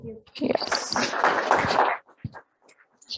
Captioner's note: applause